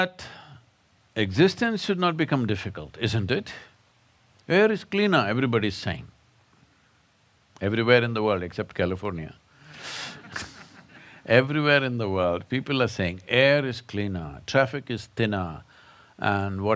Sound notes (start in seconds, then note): 10.1 laughter